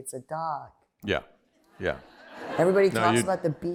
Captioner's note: laughter